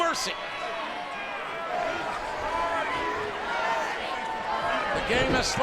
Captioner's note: audience chattering